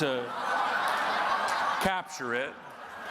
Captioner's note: audience laughing